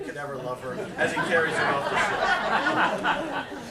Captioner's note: laughter